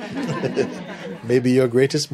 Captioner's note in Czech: smích